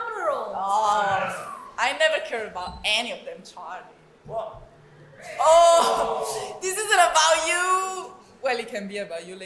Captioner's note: audience complains